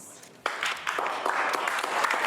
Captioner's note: clapping